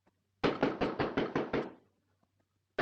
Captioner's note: banging on door